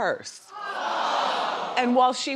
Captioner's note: crowd yells